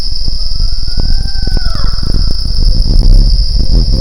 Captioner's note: owls hooting